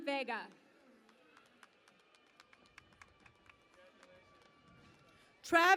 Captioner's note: cheering and Applause